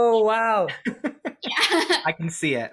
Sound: laughs

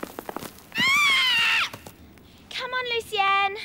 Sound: squawks

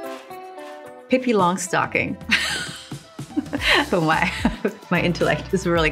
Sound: chuckles

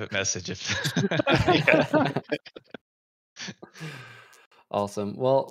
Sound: laughter

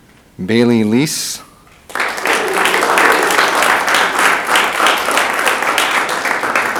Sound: audience applauding

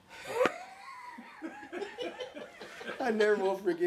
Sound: all laughing

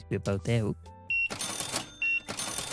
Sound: beeping

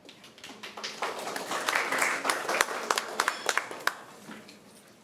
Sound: applause

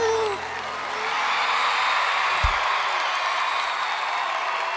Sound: audience cheers

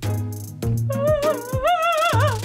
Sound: cries

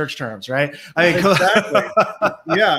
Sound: laughs

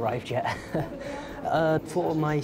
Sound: chuckles

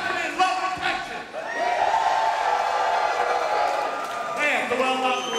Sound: audience cheers

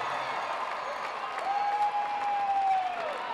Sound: cheers and applause

